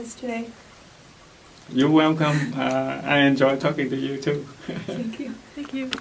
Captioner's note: laughs